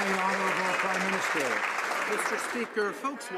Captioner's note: some Applause